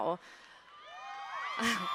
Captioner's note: cheering